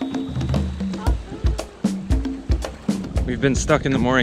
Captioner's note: laughs